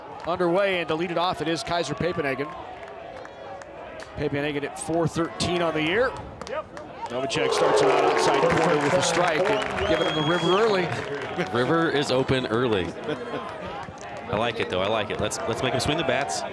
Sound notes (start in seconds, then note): 7.4 crowd cheers